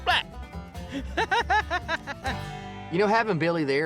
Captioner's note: laughing